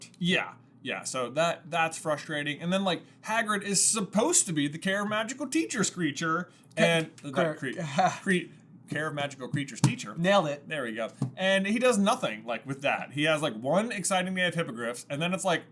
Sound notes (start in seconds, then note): 7.0 laughs